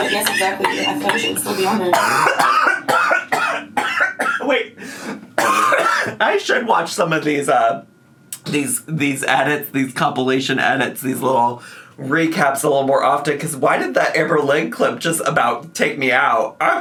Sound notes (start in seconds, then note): 1.9 coughs